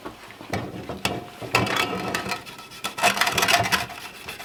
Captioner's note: wood scraping